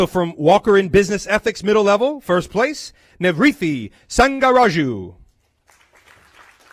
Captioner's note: applause